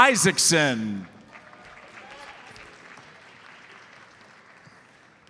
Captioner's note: audience applauds